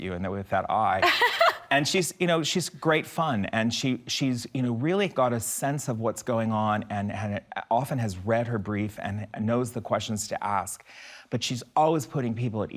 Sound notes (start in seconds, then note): 1.0 laughs